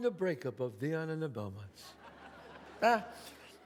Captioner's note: audience laughs